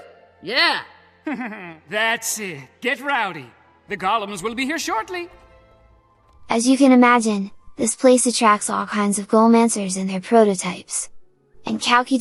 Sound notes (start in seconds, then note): 1.2 laugh